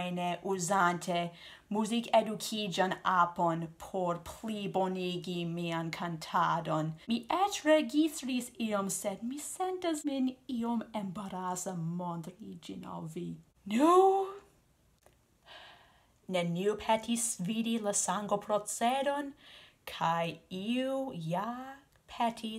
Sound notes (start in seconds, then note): 15.5 sigh